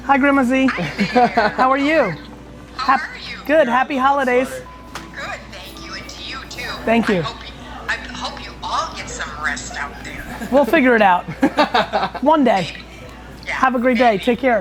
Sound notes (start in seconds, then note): 11.6 laughing